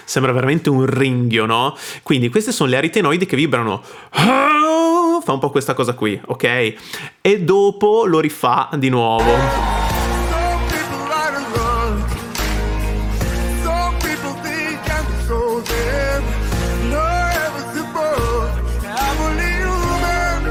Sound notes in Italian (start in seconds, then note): 13.6 Applauso